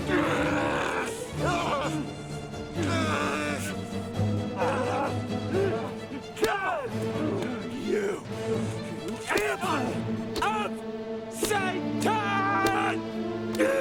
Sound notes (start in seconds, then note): 0.1 dramatic music; 4.4 groaning; 10.2 soft dramatic music